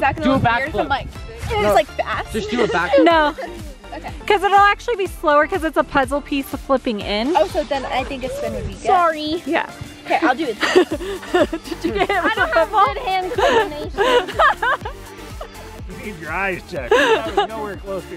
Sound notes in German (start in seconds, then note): 14.9 lacht